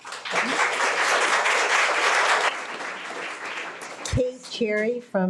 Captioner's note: audience clapping